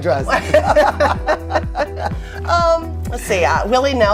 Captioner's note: laughter